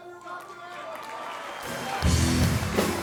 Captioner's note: audience applauds; upbeat music